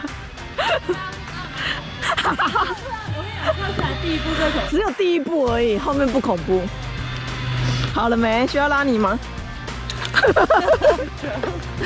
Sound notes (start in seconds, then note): 2.1 merciless laughter